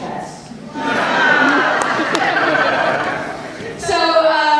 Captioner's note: audience laughter